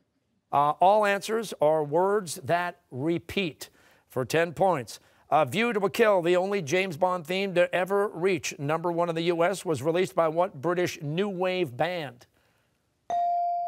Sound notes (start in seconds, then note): none